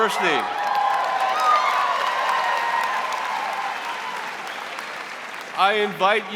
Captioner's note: audience cheering and applauding